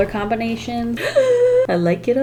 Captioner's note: gasps in excitment